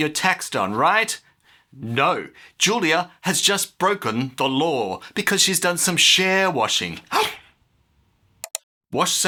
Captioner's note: gasp; click